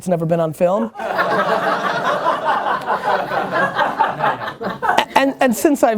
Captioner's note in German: Lachen